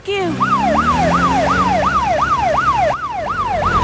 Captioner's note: siren